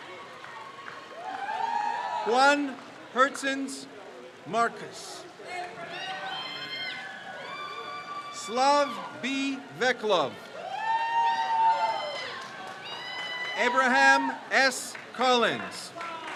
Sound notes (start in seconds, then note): 0.0 crowd cheers; 5.7 crowd cheers; 10.7 crowd cheers; 16.1 crowd cheers